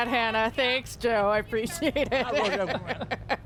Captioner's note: laughter